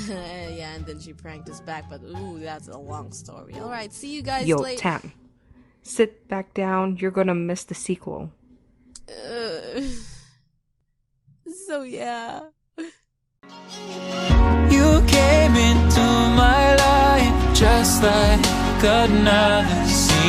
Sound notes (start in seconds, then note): 9.0 grumbling and Sobbing